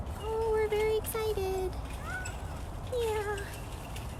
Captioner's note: meowing